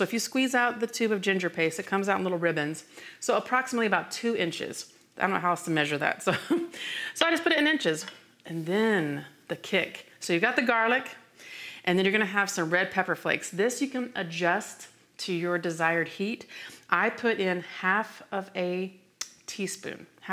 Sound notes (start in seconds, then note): 6.3 chuckles